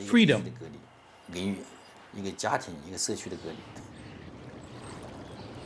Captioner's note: speaking Mandarin